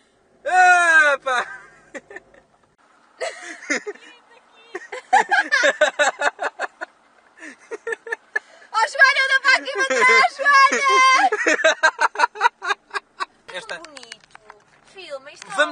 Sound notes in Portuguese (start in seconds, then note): 1.7 Risos; 4.7 Risos; 10.6 Risos